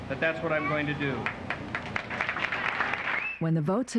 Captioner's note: applause